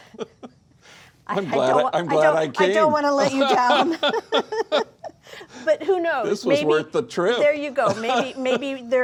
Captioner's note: laughing